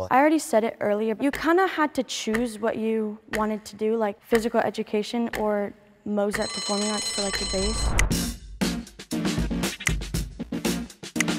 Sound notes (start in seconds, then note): 6.4 bell rings; 8.0 upbeat music